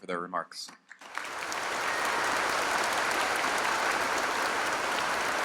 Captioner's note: applause